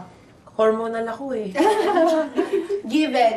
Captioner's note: laughing